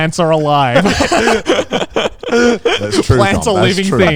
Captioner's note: group laughs